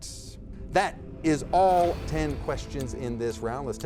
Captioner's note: dramatic music; timer ticks